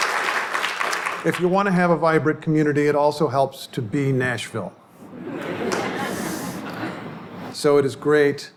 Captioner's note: applause; audience laughter